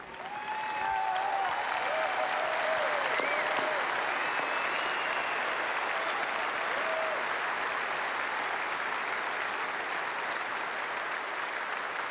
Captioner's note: applause